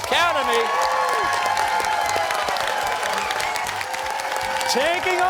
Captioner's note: cheers and applause